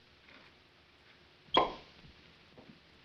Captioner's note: wine bottle pops